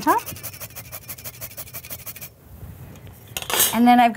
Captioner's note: nutmeg grinding